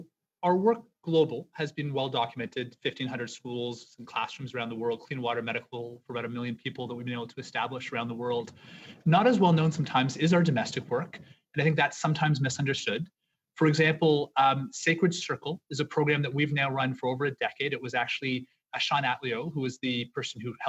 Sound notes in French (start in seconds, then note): 6.9 voix de l'interprète